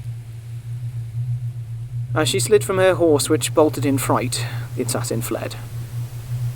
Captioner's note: static rises